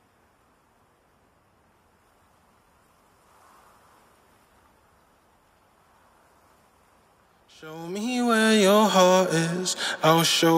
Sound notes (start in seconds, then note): 0.1 rustling leaves; 9.7 a cappella